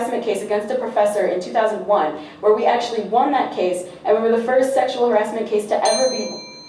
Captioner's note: loud ding from timing bell